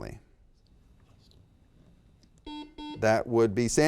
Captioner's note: whispers; buzzer beeps